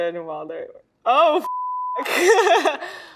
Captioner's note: beep